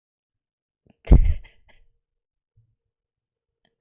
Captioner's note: laughs